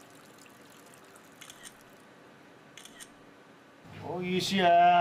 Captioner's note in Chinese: 拍照聲